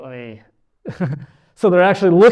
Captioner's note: chuckles